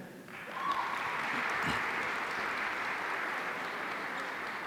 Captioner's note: audience applauding